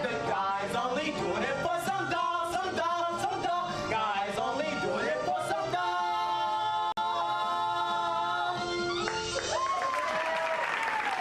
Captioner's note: applause